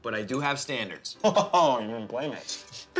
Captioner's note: chortles